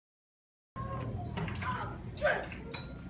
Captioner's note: clinking, kid noises